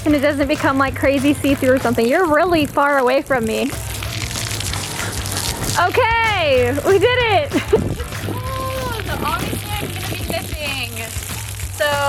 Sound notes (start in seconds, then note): 3.8 water splashing